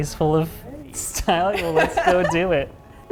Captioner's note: laughs